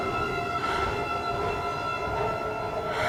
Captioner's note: breathing heavy